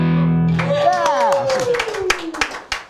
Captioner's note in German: applaus